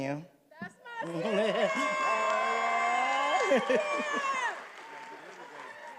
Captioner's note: attendees applauding and cheering